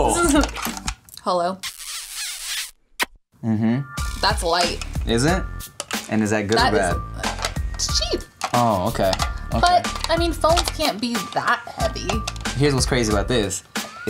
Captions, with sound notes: Hello? (lips smack) Mhm. That's light. Is it? And is that good or bad? It's cheap. Oh, okay. But, I mean, phones can't be that heavy. Here's what's crazy about this.